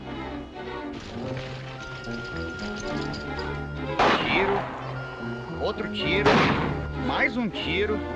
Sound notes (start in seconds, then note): 4.0 gunshot; 6.2 gunshot